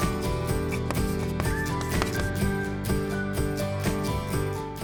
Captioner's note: chalk scratching